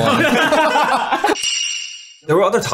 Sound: boys laughing; bells jingling

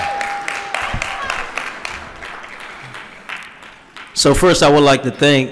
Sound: applause

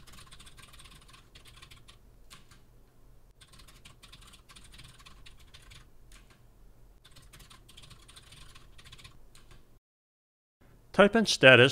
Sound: typing sounds

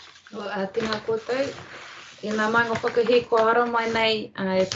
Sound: speaking in te reo Māori

